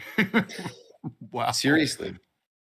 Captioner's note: laughs